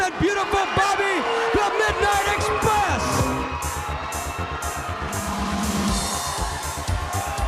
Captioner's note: crowd cheering